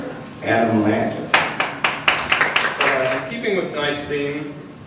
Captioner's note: audience applause